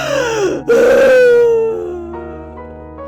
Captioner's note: sobs